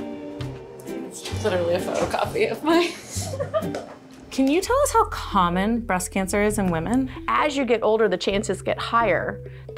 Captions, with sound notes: - Literally a photocopy of my (chuckling). - Can you tell us how common breast cancer is in women? - As you get older, the chances get higher